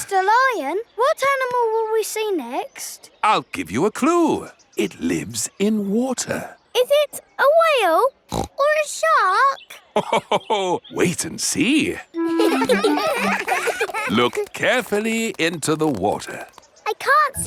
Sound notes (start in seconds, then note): 8.3 snorts; 12.2 children laughing; 12.2 laughs